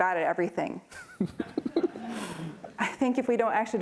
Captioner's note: laughs